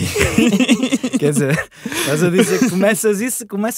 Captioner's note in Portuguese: risos